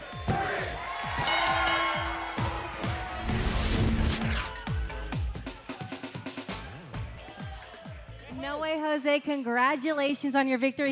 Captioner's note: bell ringing